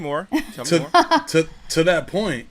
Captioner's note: laughs